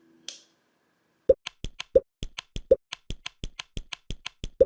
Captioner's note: pops and clicks as the items move